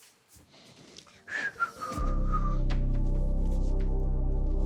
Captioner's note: whistles